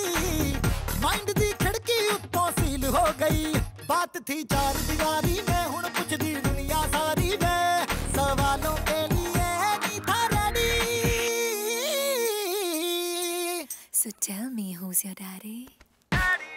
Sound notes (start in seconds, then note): none